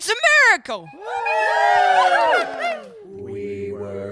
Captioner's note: everyone cheers; singing